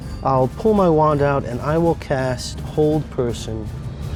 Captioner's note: none